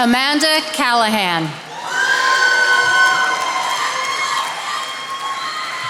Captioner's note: attendees applauding